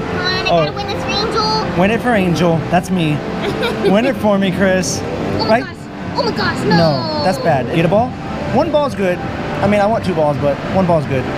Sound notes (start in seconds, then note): 3.4 laughs